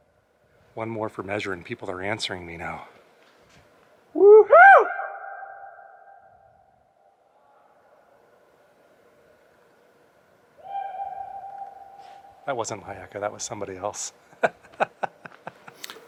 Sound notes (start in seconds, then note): 4.2 echoes; 14.3 laughter